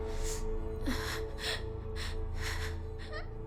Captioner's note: Eve sobs